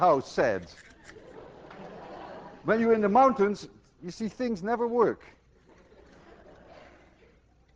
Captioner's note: students laugh; more laughter